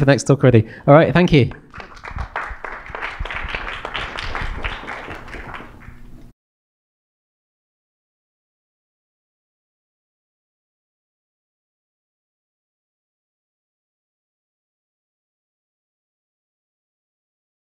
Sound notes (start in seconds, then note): 1.4 applause